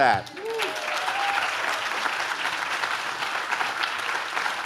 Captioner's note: audience claps